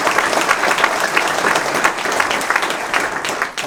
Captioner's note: applause